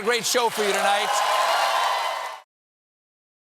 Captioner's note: cheers and applause